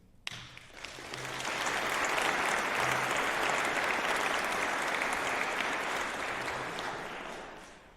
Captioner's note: applause